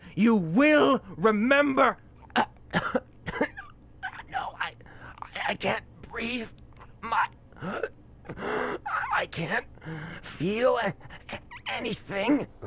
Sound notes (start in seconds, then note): 2.2 coughing; 8.2 gasping